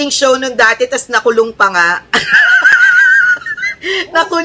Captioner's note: laughter